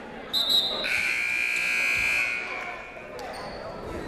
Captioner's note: whistle; buzzer